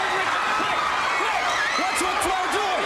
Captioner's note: crowd cheering